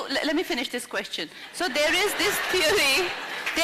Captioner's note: laughter